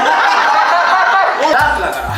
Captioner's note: laughs